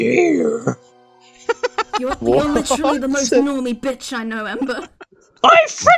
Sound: laughter; Cynder voice

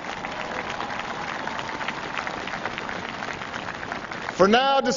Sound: applause

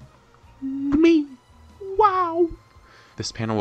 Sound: wow3.sfx

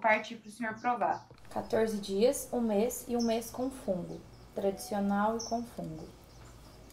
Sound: speaking in Portuguese

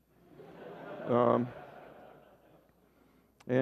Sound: laughter

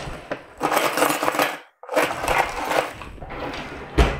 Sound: metal clanking

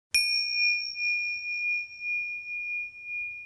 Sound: bell chimes

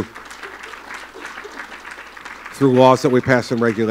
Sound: applause

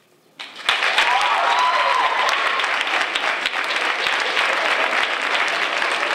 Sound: applause

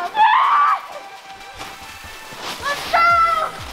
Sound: yells

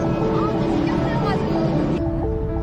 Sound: airplane sound

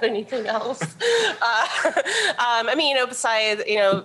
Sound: chuckling

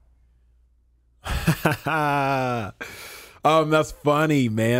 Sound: Emmanuel laughing

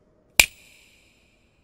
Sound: snaps finger

